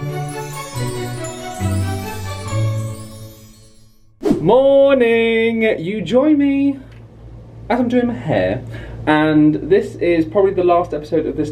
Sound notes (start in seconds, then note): 0.0 magical intro music plays; 4.2 graphic whooshes